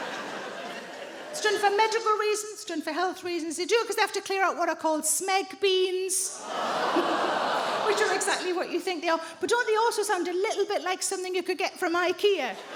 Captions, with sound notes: It's done for medical reasons, done for health reasons. They do it because they have to clear out what are called "smeg beans"... [AUDIENCE GROANS] ...which are exactly what you think they are. Don't they also sound a little bit like something you could get from IKEA?